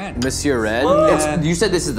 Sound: chattering

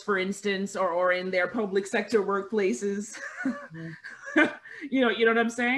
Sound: laughing

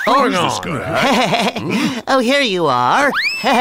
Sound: chuckles

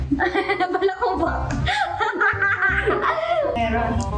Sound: chuckles

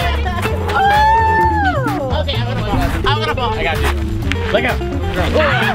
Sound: indistinct chatter

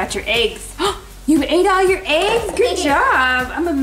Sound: gasps

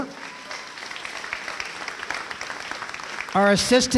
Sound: applause

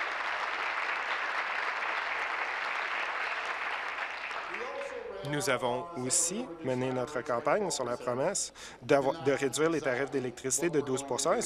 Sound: applause

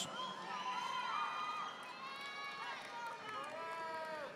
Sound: audience applauding

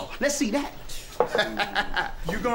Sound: laughing lightly

